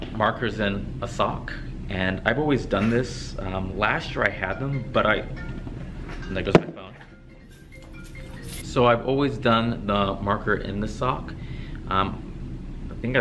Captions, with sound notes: Markers and a sock, and I've always done this. Last year I had them, but I-- (phone ringing) There goes my phone. So I've always done the marker in the sock.